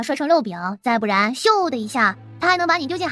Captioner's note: whoosh!